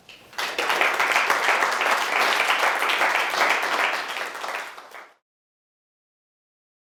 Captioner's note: applause